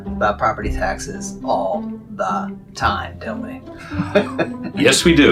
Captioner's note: laughs